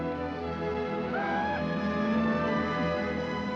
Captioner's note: man whoops; dramatic music